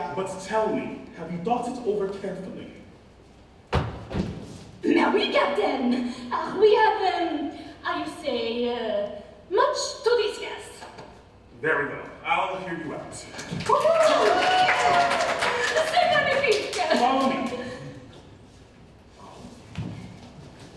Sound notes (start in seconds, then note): 13.4 ensemble cheers